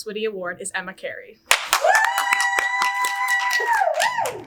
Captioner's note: audience cheers